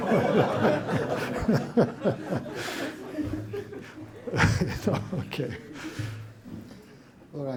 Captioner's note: laughter